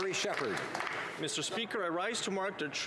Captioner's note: some Applause